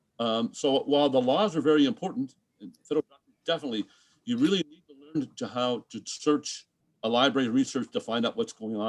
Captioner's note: distorted mic